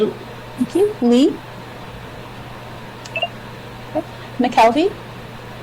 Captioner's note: object beeps